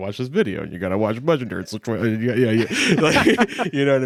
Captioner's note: laughs